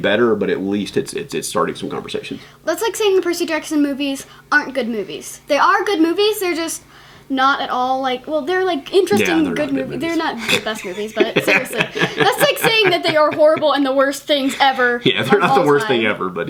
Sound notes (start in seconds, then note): 9.1 laughs